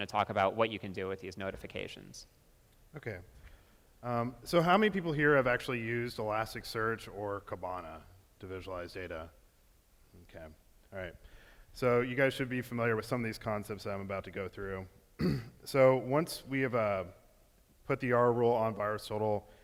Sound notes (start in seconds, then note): 15.2 clears throat